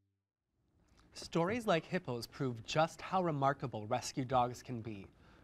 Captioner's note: none